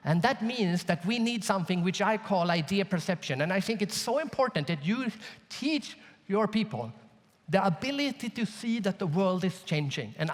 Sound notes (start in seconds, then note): none